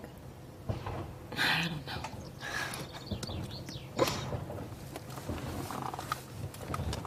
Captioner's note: chuckles